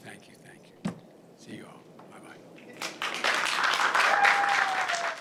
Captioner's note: applause